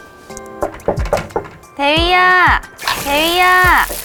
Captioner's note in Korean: 똑똑똑